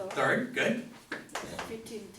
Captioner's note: voiceover